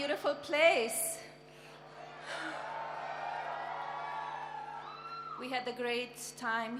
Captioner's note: applause